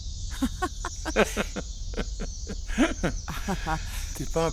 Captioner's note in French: Rires